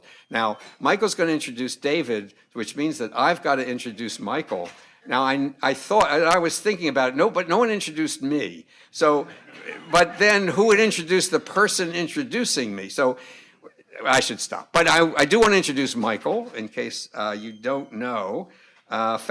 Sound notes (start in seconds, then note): 9.4 audience laughing